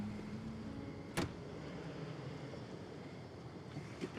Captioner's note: soft somber music; door thuds